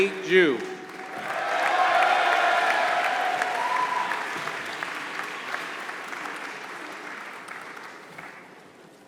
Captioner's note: applause